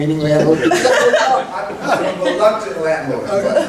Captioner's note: laughing